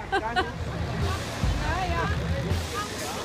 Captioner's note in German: Stimmengewirr